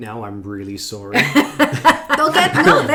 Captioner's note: laughing